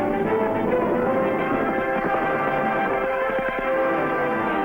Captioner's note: hooves thumping